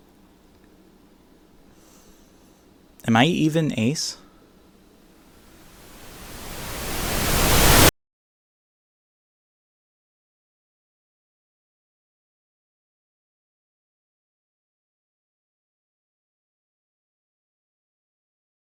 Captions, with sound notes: (inhale) Am I even ace? [static building in volume until a sharp cutoff]